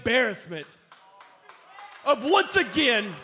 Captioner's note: crowd cheering